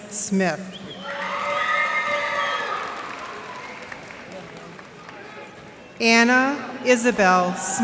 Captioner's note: cheers and applause